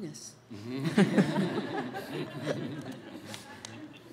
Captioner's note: audience laughs